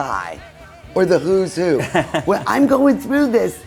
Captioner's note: laughs